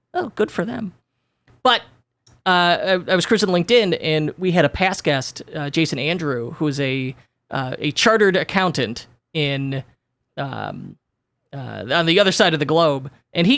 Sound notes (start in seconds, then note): none